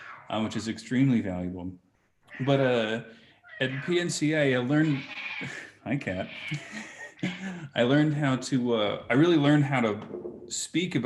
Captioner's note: laughs